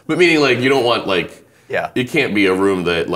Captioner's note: laughing